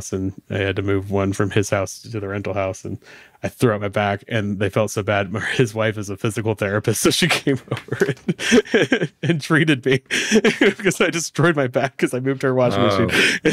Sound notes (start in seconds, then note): 10.1 laughs